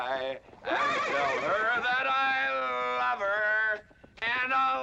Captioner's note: horse neighing